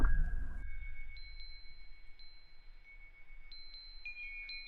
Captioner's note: chimes ringing